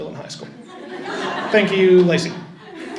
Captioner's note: audience chuckles